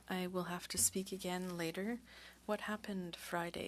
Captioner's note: speaking French